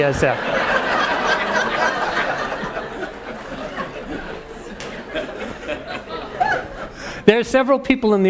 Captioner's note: laugh